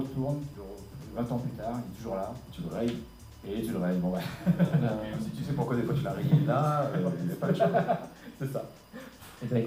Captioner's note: laughs